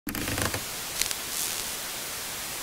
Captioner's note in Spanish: sonido: radio sintonizando